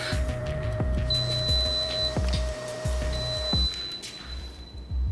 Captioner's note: error bleeping